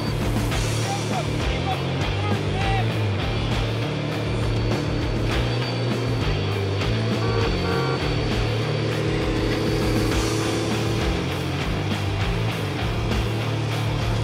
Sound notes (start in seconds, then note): 6.9 vehicle honks; 9.8 upbeat music continues